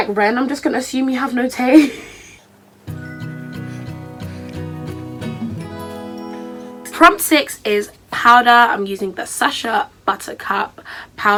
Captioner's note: laughs